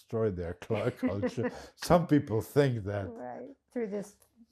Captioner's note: laughing